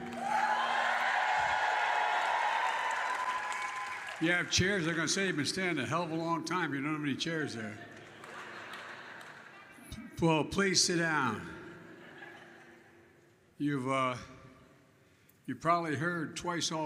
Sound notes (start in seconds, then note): 0.0 applause; 8.3 laughter